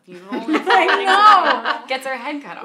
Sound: both laughing

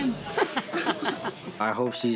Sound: laughs

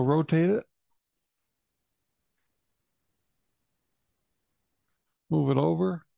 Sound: silence

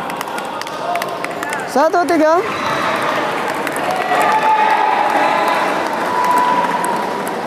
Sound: applause

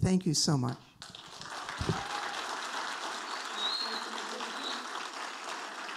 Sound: audience applauding

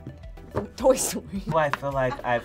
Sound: laughs

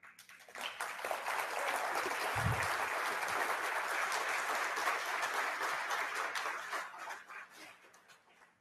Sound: audience Applause

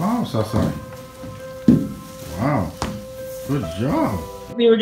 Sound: footsteps

